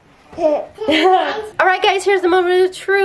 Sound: baby laughs

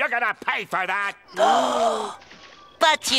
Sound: gasping

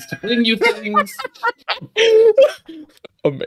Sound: laughter

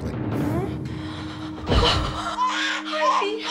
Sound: gasping; crying

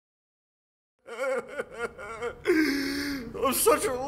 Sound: crying

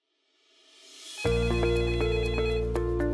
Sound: phone rings

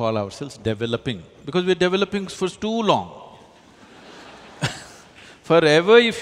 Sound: laughter

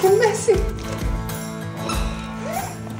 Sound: groan

